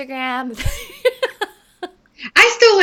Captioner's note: laughing